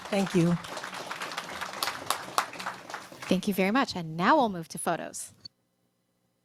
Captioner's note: applause